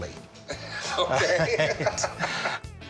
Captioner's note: laughs